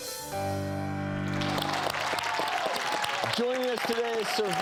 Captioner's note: applause